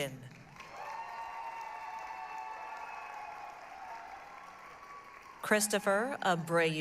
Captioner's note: applause, cheering